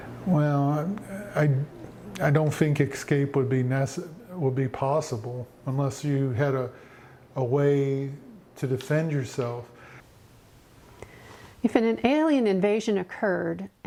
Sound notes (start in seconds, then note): none